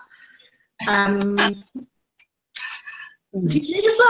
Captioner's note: laughs